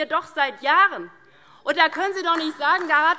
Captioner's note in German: Beifall DIE LINKE